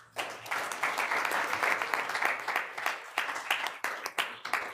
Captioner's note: room applauding